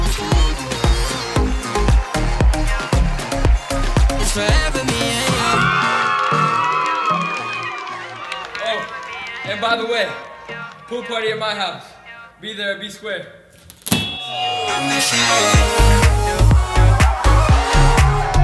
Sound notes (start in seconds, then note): 5.5 crowd screaming; 13.4 mic drop; 14.3 digital pop music